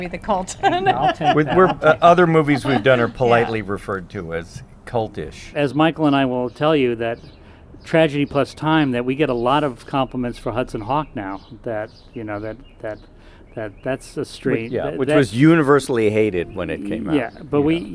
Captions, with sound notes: Is that who we are, are we the cult? (laughs) - Other movies we've done are politely referred to as cultish. - As Michael and I will tell you that tragedy plus time, that wet a lot of compliments for Hudsonw that, you know, that so strange. - Which was universally